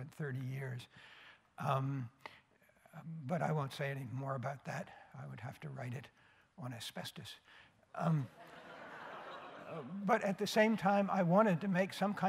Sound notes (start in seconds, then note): 8.3 laughter